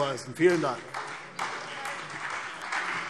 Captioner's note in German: Beifall CDU und BÜNDNIS 90/DIE GRÜNEN